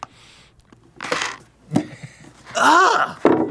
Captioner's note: gags